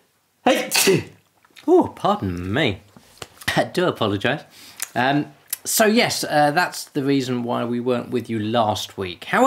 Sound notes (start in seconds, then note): 0.5 sneezes